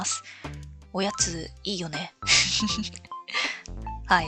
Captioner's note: laughs